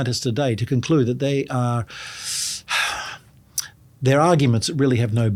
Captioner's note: exhales sharply